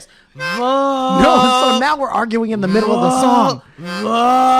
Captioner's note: tiny toot